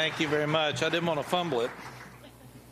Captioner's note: applause